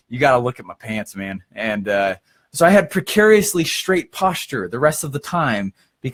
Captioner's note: none